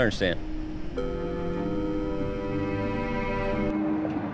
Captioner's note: disconnect tone